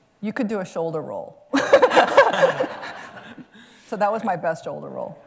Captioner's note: laughter